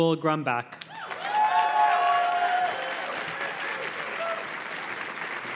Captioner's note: audience cheers and claps